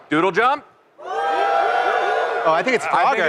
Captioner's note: cheers